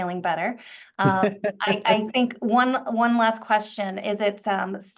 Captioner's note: laughs